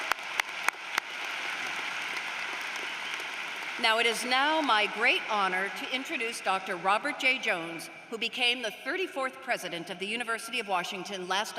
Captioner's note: applause